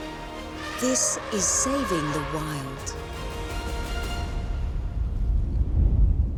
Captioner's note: elephant trumpeting; low rumbling